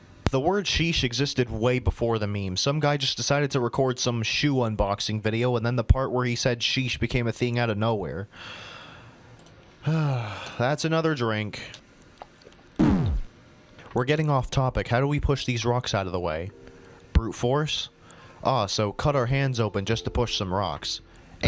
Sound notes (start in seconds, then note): 9.8 sigh